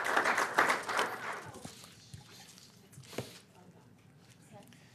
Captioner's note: applause